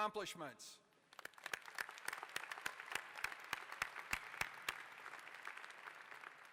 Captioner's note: applause